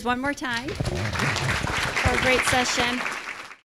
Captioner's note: audience clapping